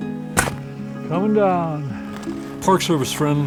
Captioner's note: snow crunches